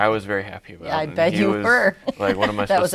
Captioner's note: chuckles